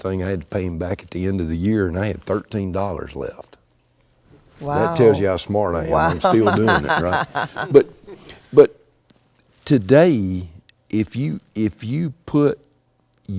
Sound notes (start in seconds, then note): 5.9 laughing